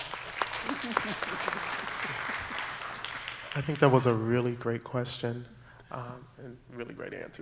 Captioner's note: applause